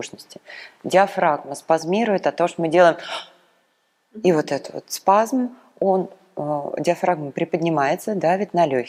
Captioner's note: sharp breath